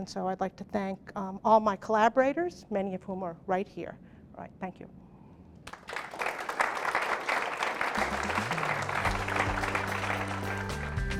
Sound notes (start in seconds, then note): 5.6 clapping